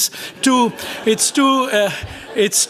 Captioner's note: laughter